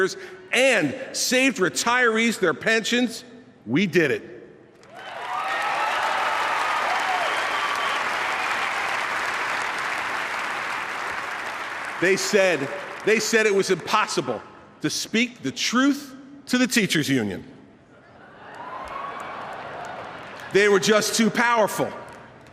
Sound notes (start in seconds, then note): 8.0 applause; 18.4 delayed cheers